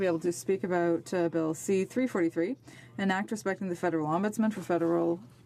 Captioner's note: speaking French